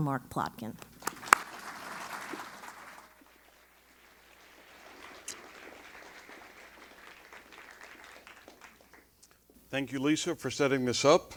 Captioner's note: applause